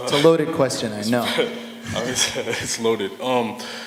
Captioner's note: laughter